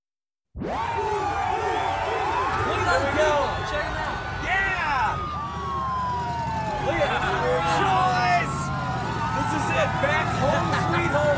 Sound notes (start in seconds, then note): 0.1 crowd cheering; 4.8 sirens